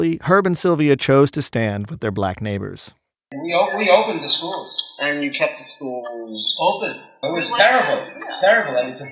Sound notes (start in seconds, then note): 3.3 soundbite of archived recording